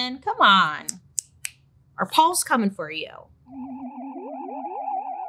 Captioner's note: snaps; eerie music